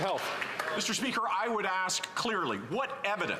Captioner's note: some Applause